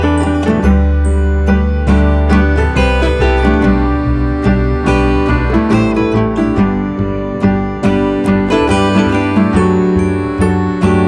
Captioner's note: laugh